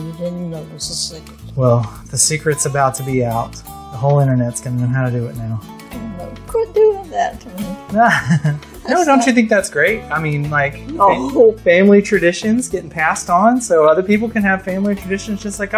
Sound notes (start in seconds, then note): 7.9 laughs; 9.8 playfully